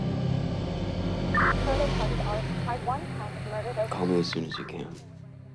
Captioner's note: police radio chattering